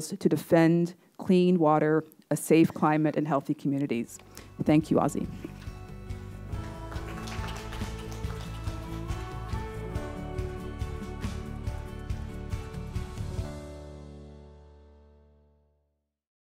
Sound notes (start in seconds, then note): 6.4 attendees applauding; 8.0 uplifting music